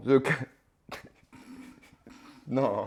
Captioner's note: chuckles